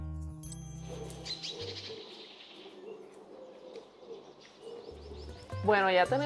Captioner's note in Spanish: trino de pájaros